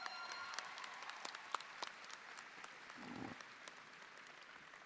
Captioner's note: audience cheering; audience applauding